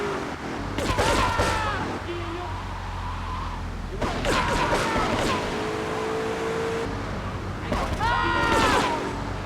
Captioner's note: screaming